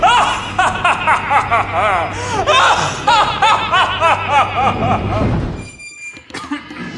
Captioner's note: thunder crashes, demonic laugh